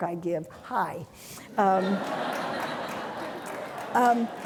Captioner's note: audience laughing